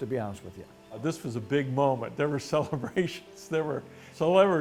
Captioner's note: laughing